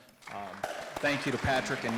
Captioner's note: audience applauding